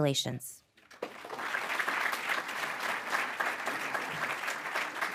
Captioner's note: audience clapping